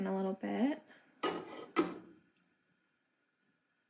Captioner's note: pan clanging